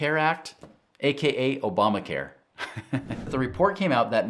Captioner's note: chuckles